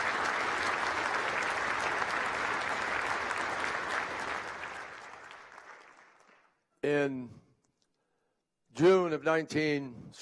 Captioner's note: applause